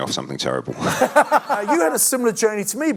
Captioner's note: laughing